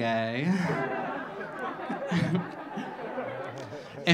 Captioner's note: audience laughing